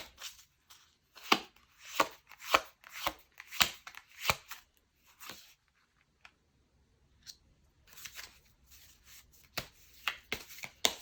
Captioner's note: drawing cards